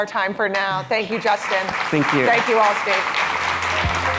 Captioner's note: applause